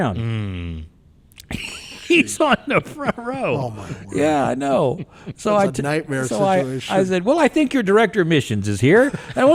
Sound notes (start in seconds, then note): 1.4 laughs; 9.0 podcasters laughing